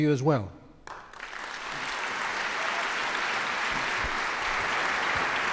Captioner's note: audience applauds